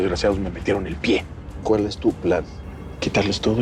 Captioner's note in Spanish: En voz baja